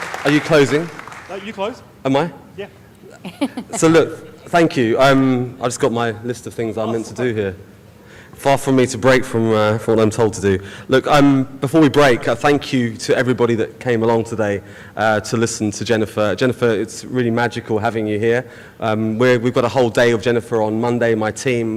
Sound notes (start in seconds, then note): 3.0 laughing